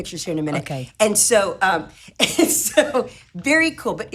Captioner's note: chuckles